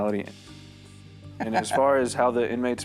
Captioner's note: laughing